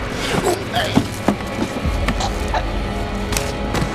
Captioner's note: choking